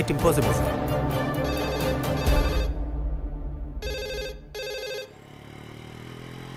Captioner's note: Phone rings